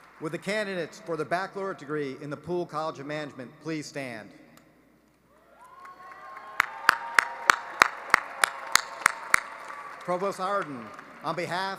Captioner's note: applause